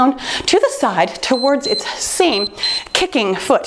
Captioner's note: timer beeps